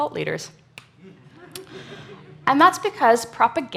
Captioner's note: audience laughs